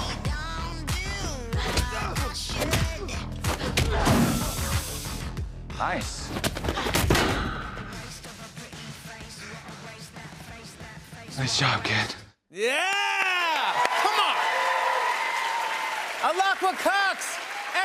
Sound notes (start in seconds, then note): 3.7 groans; 14.4 cheers and applause